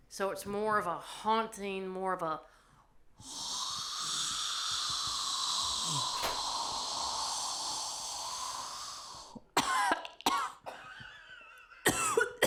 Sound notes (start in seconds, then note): 3.2 imitates air slowly whooshing; 9.5 coughing